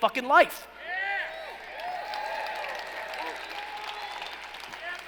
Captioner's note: cheering and applauding